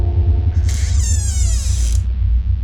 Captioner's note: door creaks